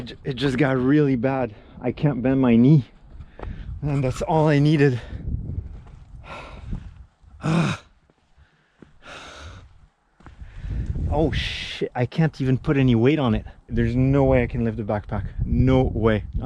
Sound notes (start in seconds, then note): 7.3 sighs